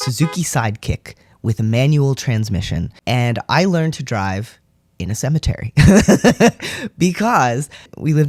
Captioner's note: laugh